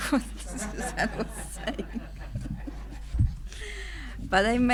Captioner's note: laughing